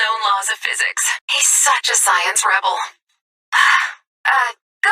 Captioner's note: sigh